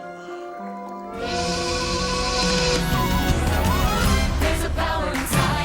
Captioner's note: train horn honking